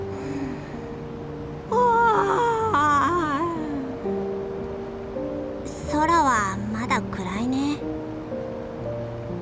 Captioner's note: yawn